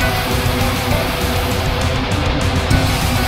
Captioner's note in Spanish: la multitud aclama